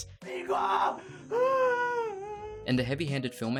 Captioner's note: dramatic wailing